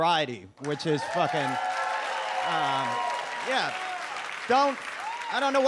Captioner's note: audience applauds